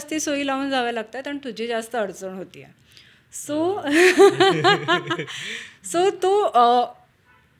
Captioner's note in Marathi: हास्य